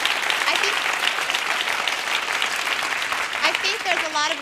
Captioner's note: clapping